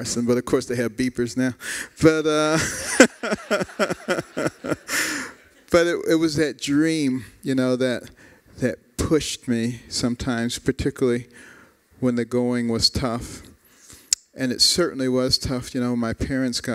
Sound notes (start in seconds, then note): 2.5 laughter